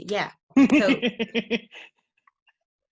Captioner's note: laughs